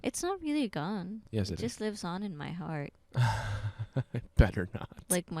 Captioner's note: laughing